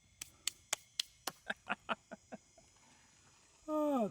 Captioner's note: clapping; laughing